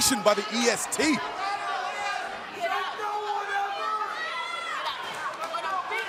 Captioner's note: crowd chatter